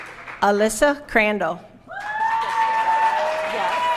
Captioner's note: applause